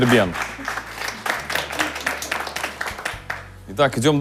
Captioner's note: applause